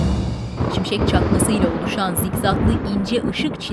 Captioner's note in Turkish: Gök gürültüsü sesi